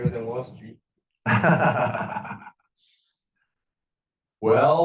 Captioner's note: professor laughing